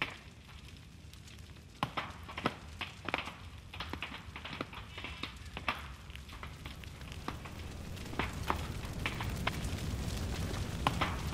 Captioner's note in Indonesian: gemeretak kayu kering terbakar; gemuruh angin panas